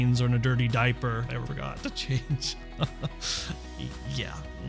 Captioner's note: chuckles